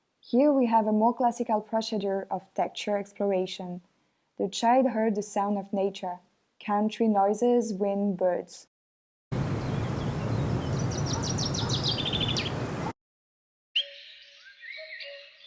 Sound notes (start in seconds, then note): 9.4 motor engine revving; 11.2 birds chirping